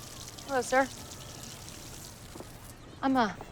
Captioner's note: water shuts off